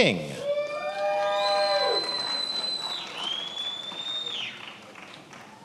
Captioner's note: attendees applauding and cheering